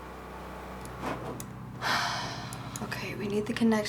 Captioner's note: sighs